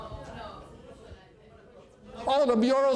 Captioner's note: audience chatter